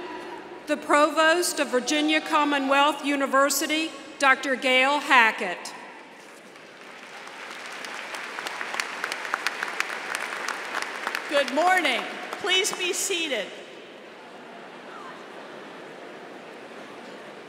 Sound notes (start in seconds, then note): 6.2 applause